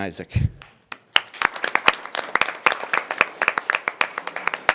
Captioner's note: members applauding